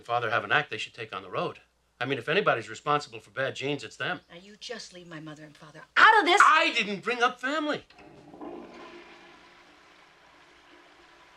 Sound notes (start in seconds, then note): 8.0 water gushing